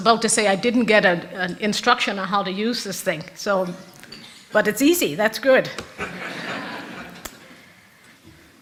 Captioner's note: rires de l'auditoire